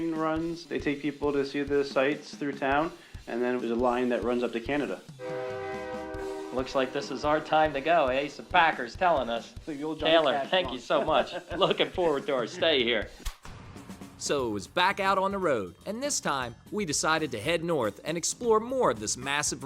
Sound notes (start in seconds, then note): 5.2 train horn; 12.7 light, upbeat music